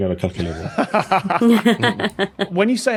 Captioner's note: laugh